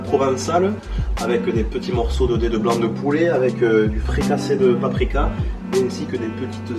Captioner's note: Marseille accent